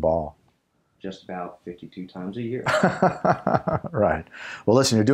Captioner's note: laugh